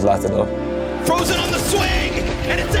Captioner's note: gun firing